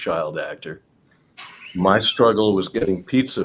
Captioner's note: laughs